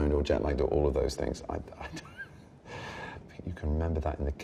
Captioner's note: chuckles